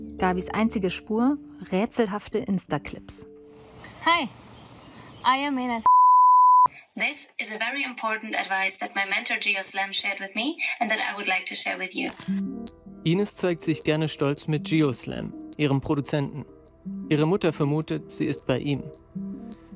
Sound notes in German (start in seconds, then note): 4.1 englisch